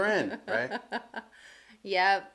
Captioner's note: laughs